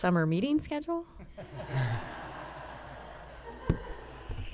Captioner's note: laughter